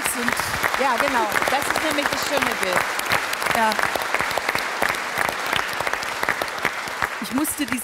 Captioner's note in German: Applaus